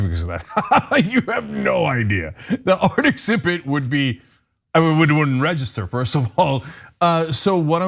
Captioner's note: laugh